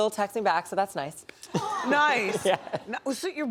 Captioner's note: laughs